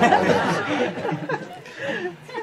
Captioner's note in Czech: smích